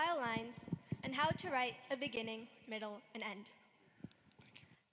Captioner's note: none